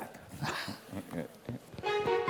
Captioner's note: laugh